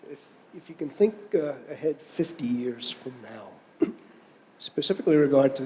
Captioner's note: cough